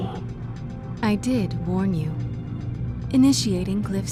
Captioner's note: voiceover